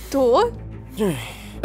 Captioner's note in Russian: огорчённый вздох